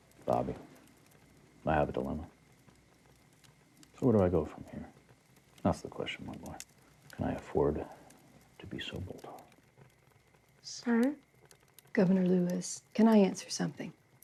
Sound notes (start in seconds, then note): none